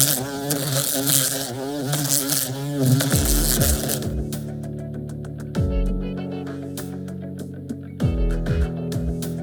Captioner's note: bee sound